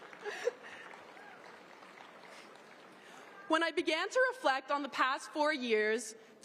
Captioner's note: laughter